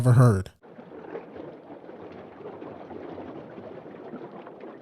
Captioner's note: water babbling